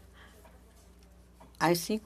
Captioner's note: speaking French